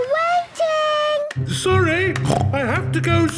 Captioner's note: snorts